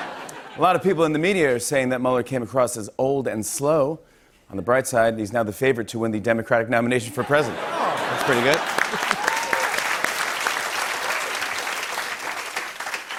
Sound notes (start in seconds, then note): 0.0 laughter; 7.2 laughter; 7.9 applause